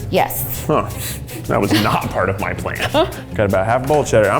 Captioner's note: laughs